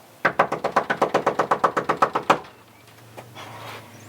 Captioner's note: urgent knocking; Lucky sighs